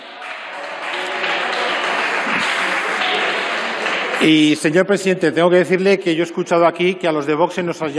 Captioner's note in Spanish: Rumores.-Aplausos